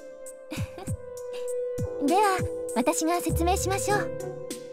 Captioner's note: giggle